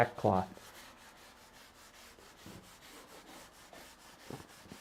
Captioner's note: sander scraping